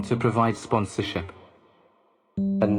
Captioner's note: none